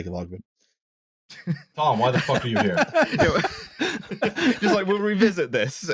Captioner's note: laughter